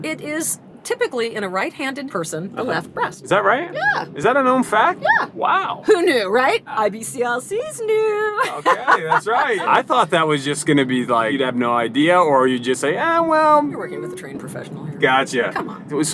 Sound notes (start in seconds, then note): 8.4 laughter